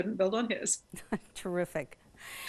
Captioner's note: both laugh